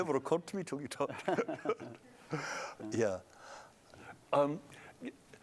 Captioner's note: laughter